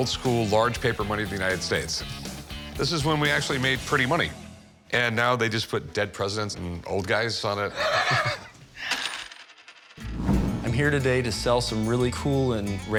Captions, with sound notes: large paper money of the United States. This is when we actually made pretty money. And now they just put dead presidents and old guys on it. [laughs] - I'm here today to sell some really cool and rare old